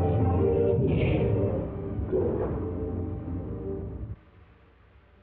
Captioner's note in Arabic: إطلاق نار متفجر